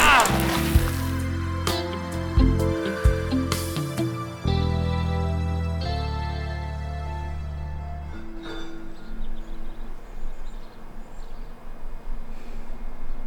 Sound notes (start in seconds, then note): 0.1 sultry music; 8.0 clinking